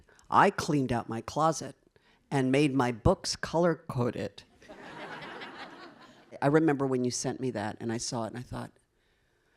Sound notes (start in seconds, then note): 4.7 audience laughing